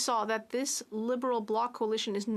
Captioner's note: speaking French